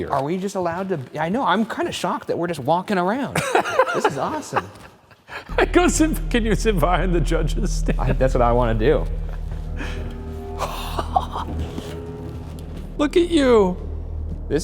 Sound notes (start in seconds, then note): 3.3 laughing; 7.6 laughing; 10.5 gasps and chuckles